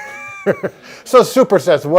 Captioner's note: both laugh